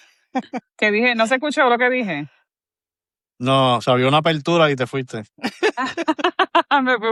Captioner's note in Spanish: risas